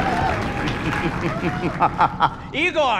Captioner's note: sinister laugh